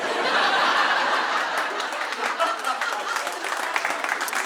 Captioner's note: audience laughing